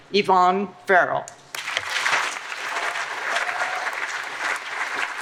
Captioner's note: applause